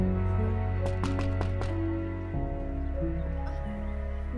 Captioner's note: knocking the door